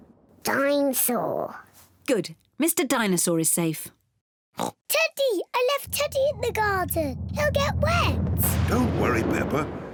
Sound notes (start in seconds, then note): 4.6 oinks